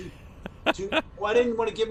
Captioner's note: laughter